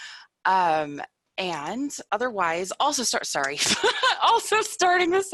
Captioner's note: laughs